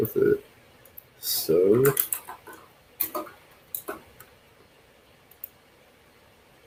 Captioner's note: keyboard clacks